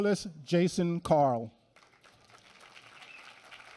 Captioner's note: applause